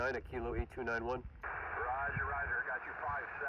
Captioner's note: radio static hissing